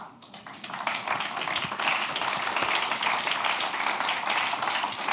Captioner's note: applause